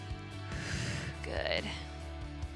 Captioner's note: upbeat music continues; exhales